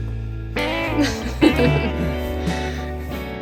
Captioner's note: laughs